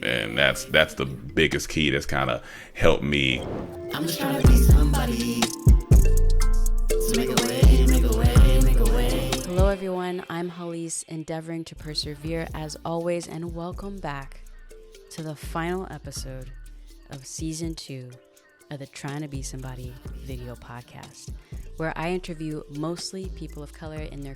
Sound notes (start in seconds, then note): 3.5 graphic swooshing; 9.3 graphic swooshing